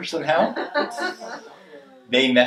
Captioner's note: audience laughing